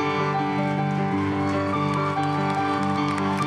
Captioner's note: applause